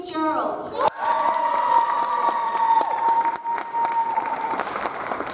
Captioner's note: audience applauds